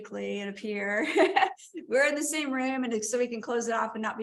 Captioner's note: laughter